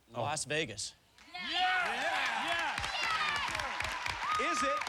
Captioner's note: cheers